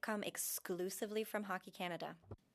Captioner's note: speaking French